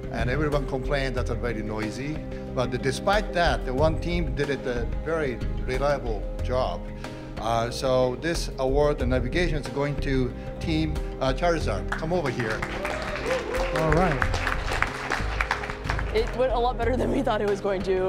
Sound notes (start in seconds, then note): 11.9 clapping